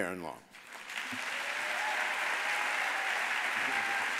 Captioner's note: audience applauds